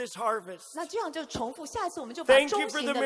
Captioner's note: interpreter speaking in foreign language